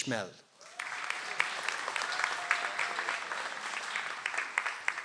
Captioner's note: audience applauds